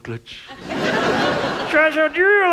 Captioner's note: audience laughs